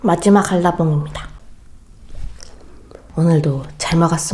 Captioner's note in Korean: 뇸뇸